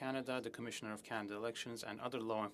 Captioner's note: speaking french